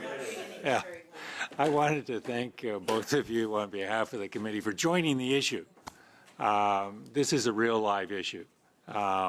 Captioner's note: laughter